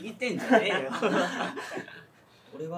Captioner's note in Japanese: 笑う